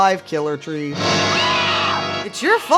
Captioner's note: scream